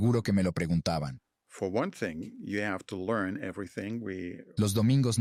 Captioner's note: Hablando idioma extranjero